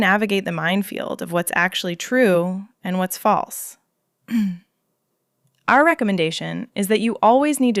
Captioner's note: clears throat